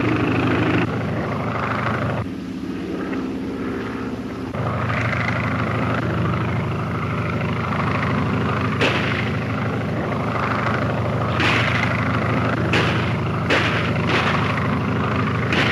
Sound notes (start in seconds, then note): 8.9 gunshots cracking